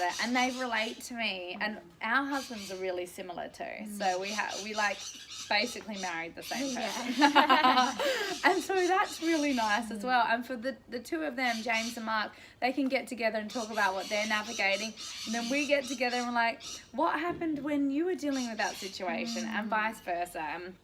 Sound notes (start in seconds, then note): 7.0 laughter